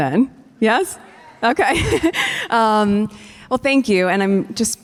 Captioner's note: chuckles